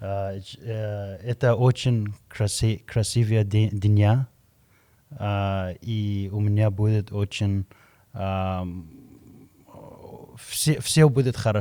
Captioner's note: Russian language